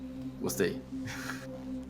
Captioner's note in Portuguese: Risadas